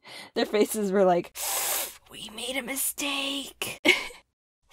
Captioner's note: inhale